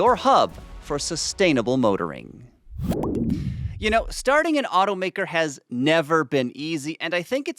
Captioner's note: swoosh